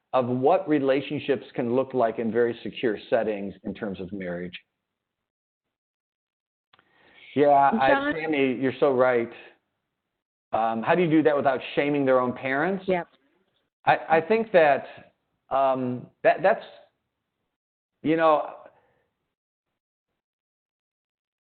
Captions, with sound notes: of what relationships can look like in very secure settings in terms of marriage. Yeah, (faintly speaking) you're so right. How do you do that without shaming their own parents? I think that, I'll use an example,